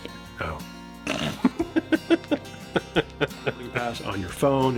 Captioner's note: snorts; laughing